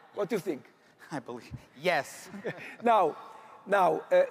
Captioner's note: chuckles; laughs